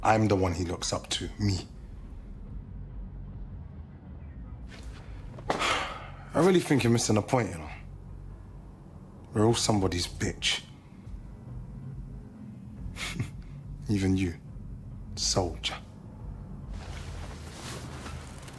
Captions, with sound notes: I'm the one he looks up to, me! (sighing) I really think you're missing the point, you know? We're all somebody's bitch. (chuckling) Even you, soldier.